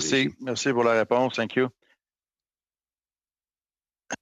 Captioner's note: speaking French